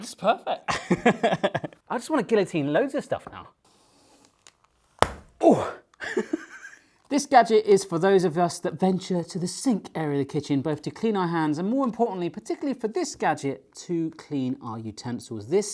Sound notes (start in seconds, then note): 0.7 laughing; 5.0 suction cup thudding; 6.5 laughing